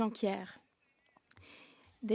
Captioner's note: speaking French